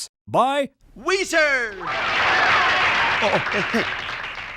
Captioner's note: audience cheers